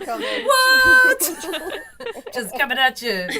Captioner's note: doctors laughing